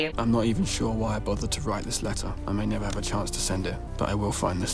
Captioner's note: none